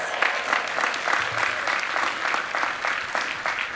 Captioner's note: people clapping